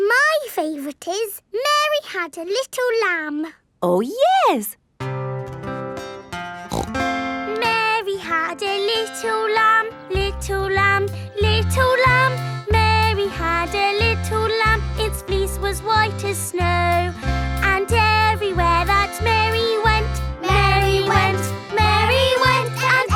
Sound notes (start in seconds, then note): 5.0 playing guitar; 6.6 snorts